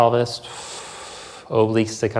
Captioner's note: exhales softly